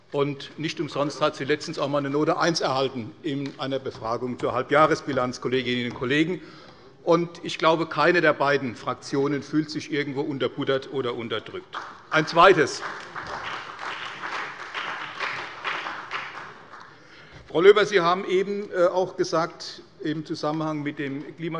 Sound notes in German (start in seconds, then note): 11.7 Beifall bei der CDU und dem BÜNDNIS 90/DIE GRÜNEN